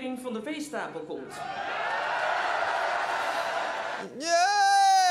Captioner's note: cheering